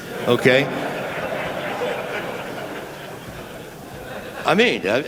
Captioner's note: laughter